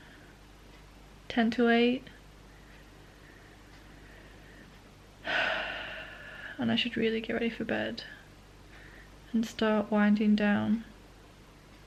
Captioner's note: sigh